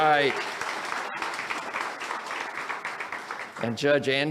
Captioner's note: audience applauds